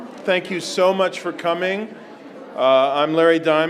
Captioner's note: none